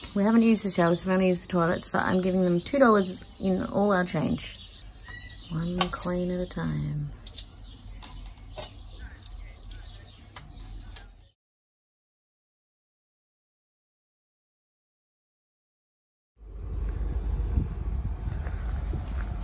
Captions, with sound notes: We haven't used the showers, we've only used the toilets, so I'm giving them $2 in all our change. One coin at a time. [coins clink as they drop into the box]